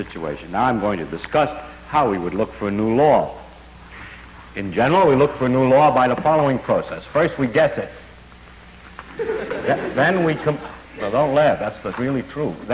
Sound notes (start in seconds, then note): 9.0 laughter